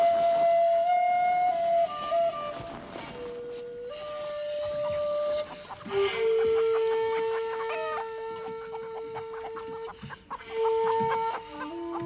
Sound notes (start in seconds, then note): 5.1 chickens clucking